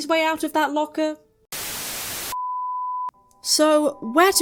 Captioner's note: static